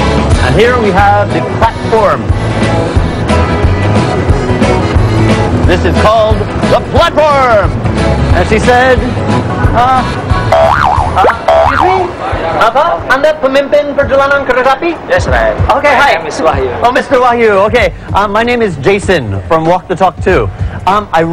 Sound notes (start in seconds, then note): 10.5 boing; 12.6 speaking indonesian